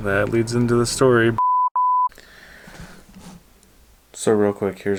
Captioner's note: beeping